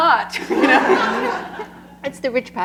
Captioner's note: laughter